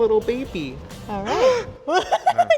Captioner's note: gasps; laughs